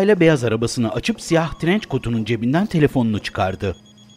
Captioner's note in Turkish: Telefon zili sesi